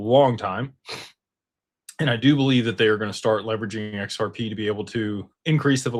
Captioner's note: snorts